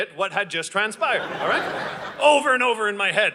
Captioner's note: audience laughing